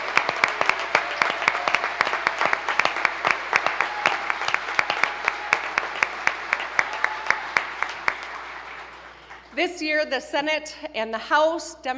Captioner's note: applause